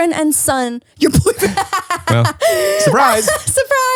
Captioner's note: laughs loudly